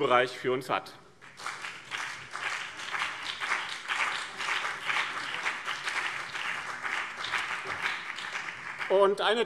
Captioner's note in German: Beifall BÜNDNIS 90/DIE GRÜNEN